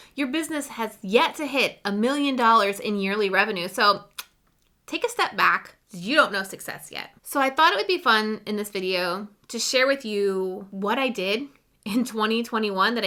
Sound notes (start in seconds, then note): 4.1 clicks